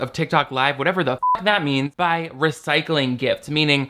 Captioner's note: beep